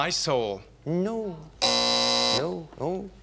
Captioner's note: buzzer